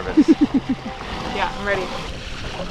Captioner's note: laughing